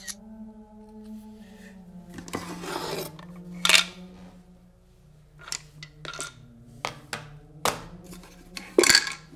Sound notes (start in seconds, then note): 3.8 objects rattling